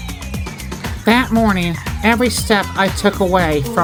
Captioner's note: voice-over